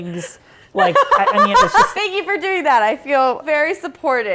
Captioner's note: laughing